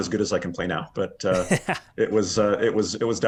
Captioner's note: laughing softly